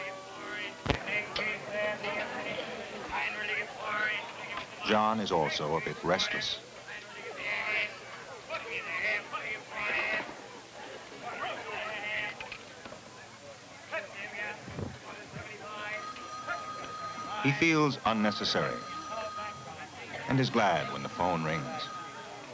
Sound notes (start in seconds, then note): 15.5 phone ringing